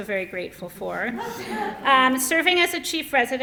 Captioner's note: laughter